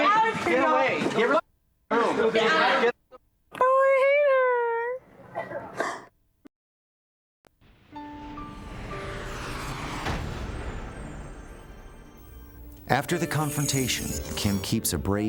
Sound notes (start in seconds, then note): 5.6 sobs